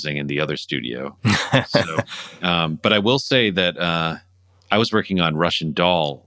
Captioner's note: laughter